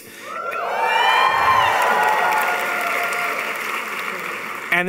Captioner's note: audience cheering